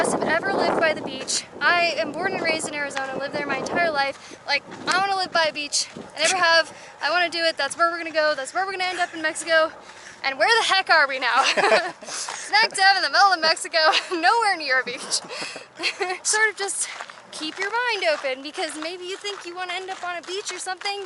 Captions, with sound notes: of us have ever lived by the beach, I am born and raised in Arizona, lived there my entire life. Like, I want to live by Beach, I never have, I want to do it, that's where we're gonna go, that's where we're gonna end up in Mexico and where the heck are we now? [Laughter]. Smack dab in the middle of Mexico, nowhere near a Beach. [Laughter]. Sort of just keep your mind open because maybe you think you want to end up on a beach or